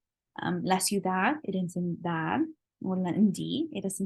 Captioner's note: spanish